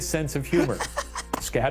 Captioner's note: laughs